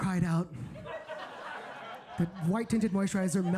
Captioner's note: audience laughs